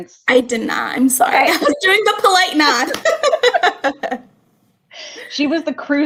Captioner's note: laughter